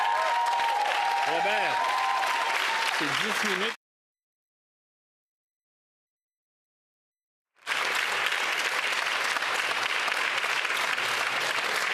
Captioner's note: applause